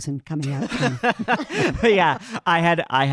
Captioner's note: panel laughing